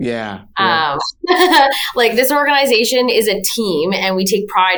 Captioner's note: laughs